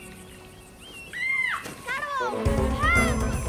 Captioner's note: girl screams